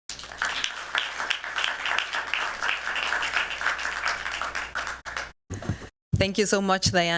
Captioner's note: applause